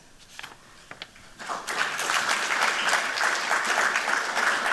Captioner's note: applause